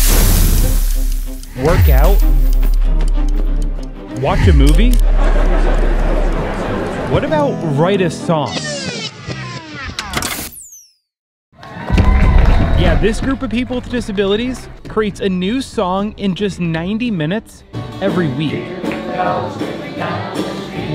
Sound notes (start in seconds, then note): 0.0 pan sizzling; 2.9 feet stomping; 11.6 audience cheering